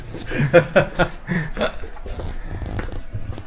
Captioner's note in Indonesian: tertawa